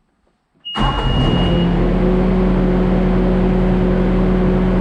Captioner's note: engine roars